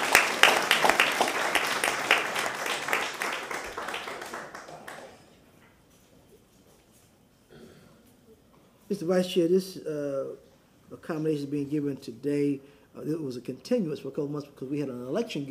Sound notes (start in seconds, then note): 0.0 applause